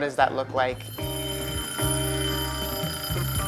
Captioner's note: timer ringing